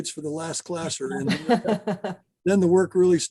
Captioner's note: laughs